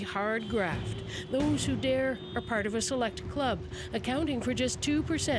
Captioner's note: horns honking